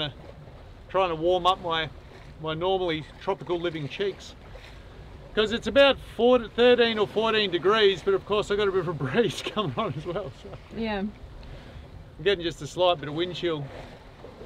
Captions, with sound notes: to warm up my normally tropical-living cheeks. 'Cause it's about 13 or 14 degrees, but of course, they've got a bit of a breeze coming on as well, so (chuckles) I'm gettin' just a slight bit of wind chill.